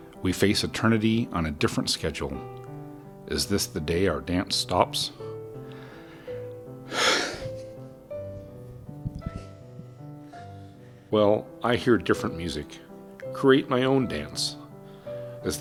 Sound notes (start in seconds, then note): 6.9 heavy sigh